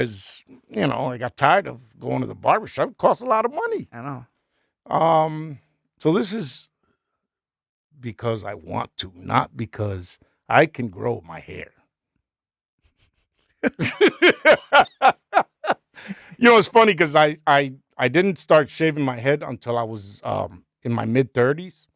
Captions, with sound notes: Cause you know, I got tired of going to the barbershop. It costs a lot of money. I know. So this is because I want to, not because I can grow my hair. (laughing) You know, it's funny cause I didn't start shaving my head until I was in my mid thirties.